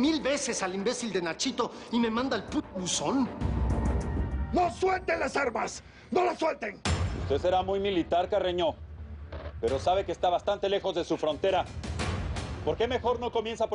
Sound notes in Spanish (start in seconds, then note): none